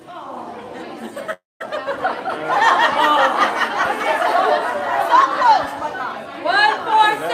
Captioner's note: laughter